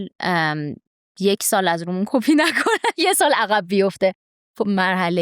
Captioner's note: laughs